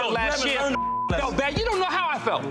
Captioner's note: beep